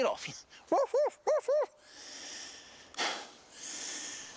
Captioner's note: barking